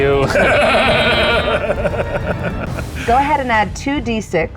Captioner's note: laughs